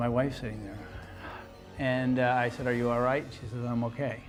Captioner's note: sighs